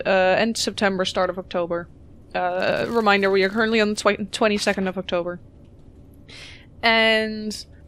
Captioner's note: none